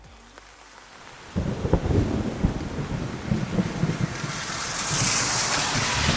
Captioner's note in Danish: torden buldrer, regn sprøjtende